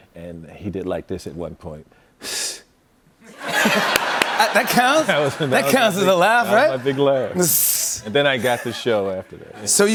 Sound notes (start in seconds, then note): 2.0 exhales sharply; 3.3 laughter